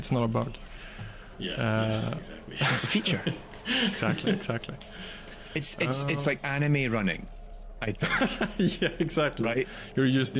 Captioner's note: laughs